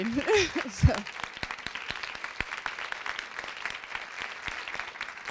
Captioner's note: applause